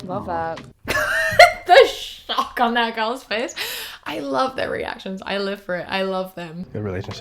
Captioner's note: laughs